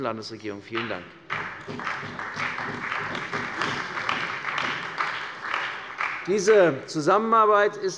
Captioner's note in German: Beifall bei der CDU und dem BÜNDNIS 90/DIE GRÜNEN